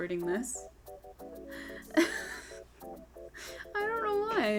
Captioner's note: tired laughing